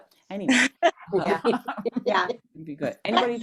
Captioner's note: laughter